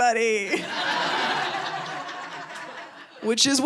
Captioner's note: audience laughing